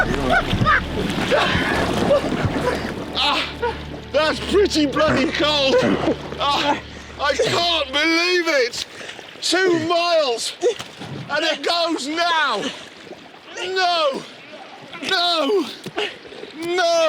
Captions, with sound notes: Richard… Richard… (RICHARD LAUGHS) It's going over!